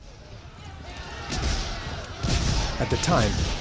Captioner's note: shouting, gunfire